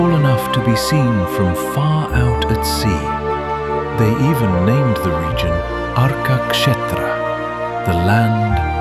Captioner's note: thoughtful